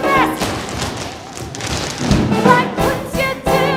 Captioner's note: shoes tapping